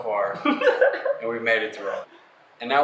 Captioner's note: laughing